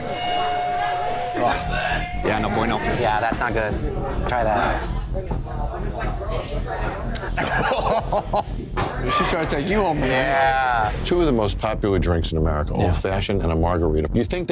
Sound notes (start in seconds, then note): 0.2 tense music; 7.4 customer 1 coughing